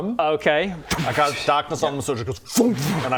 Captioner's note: fwompf